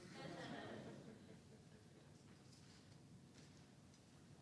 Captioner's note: audience chuckles